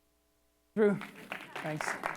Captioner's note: applause